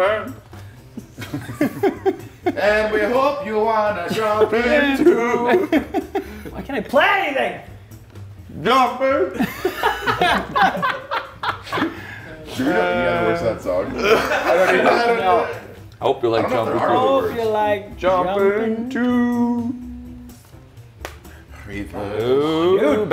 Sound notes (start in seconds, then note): 0.9 laugh; 9.3 laugh